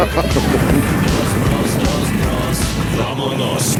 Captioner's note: laughter